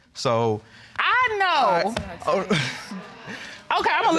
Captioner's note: chuckles